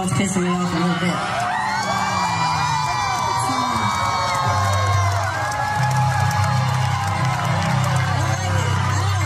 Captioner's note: applause